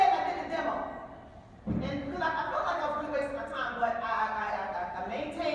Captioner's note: none